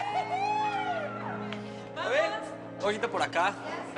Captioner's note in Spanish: Gritos y exclamaciones